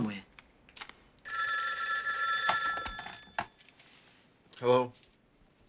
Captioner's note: telephone ringing